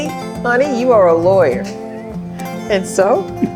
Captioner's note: laughs